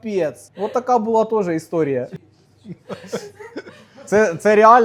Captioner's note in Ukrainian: сміх